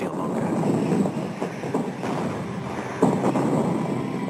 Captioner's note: bombs exploding; guns firing